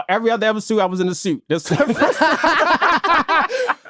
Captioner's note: all laughing